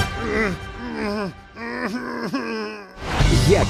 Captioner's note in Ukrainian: Чак стогне